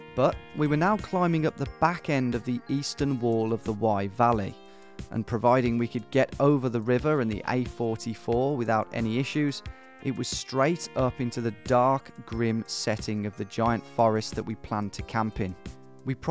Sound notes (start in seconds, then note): none